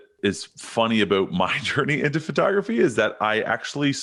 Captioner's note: chuckles